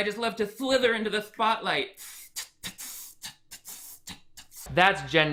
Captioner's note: hissing